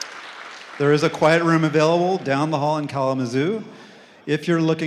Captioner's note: applause